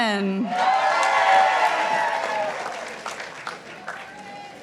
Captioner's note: participants applauding